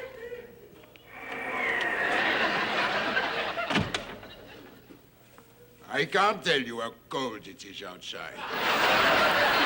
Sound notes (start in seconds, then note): 1.1 wind howling; 8.4 audience laughing